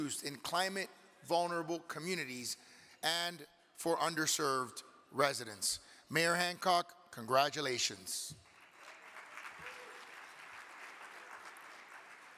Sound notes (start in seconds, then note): 8.4 audience clapping